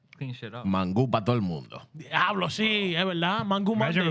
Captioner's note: speaking Spanish